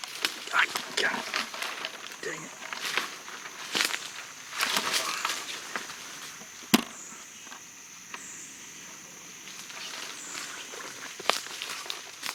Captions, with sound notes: Ah, God, dang it! (leaves crunching loudly) (plastic equipment scraping hollowly)